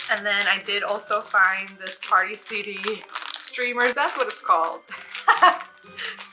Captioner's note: laughs